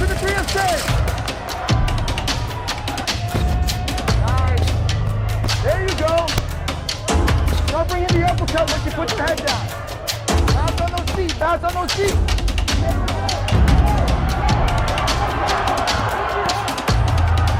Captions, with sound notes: Hit the three there. Nice. There you go. Now bring in the uppercut when she puts the head down. Fast on those feet, fast on those feet. (audience shouting)